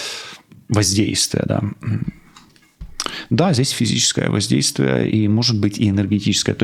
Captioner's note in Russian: откашливается